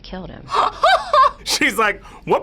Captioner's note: laughs